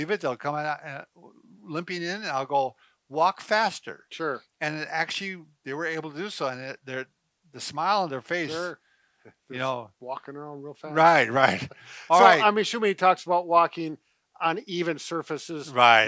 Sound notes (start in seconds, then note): 11.7 chuckles